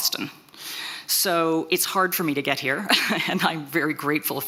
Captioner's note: chuckles